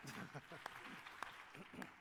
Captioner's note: applause